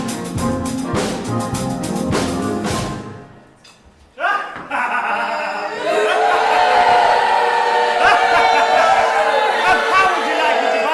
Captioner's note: evil laughter followed by BOOS